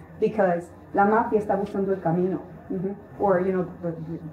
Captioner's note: Spanish